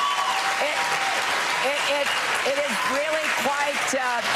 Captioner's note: cheers and applause